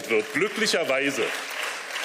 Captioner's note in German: Beifall